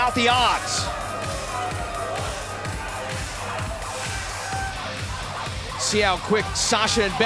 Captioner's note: crowd cheering